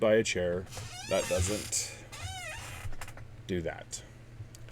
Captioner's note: annoying squeek